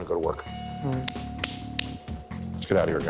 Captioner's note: slaps hands